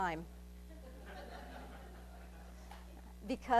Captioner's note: laughing